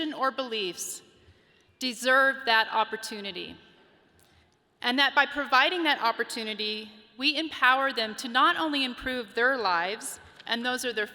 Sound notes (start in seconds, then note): none